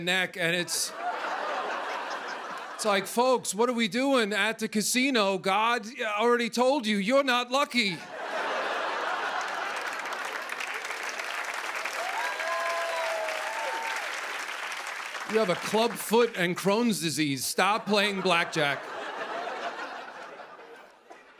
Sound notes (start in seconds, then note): 0.6 laughter; 8.0 laughter; 10.5 cheers and applause; 17.8 laughter